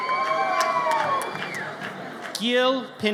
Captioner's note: audience cheers